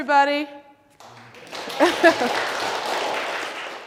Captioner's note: applause